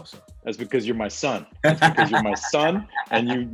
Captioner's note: laughs